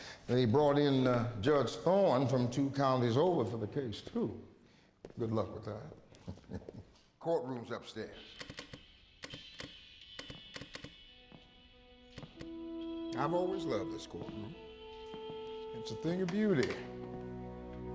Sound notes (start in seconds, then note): 10.0 flipping switches